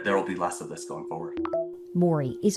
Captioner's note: notification beeping